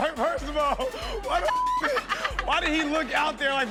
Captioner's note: Chanel laughing; laughing; beep